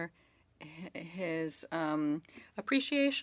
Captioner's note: speaking French